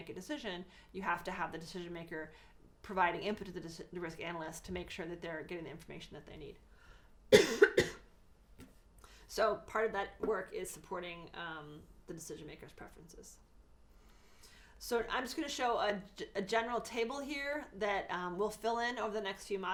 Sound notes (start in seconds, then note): 7.3 cough